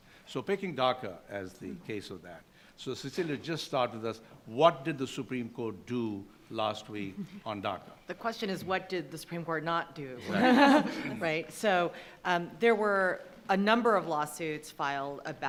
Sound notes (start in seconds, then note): 10.2 attendees laughing